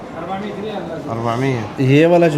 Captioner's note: Arabic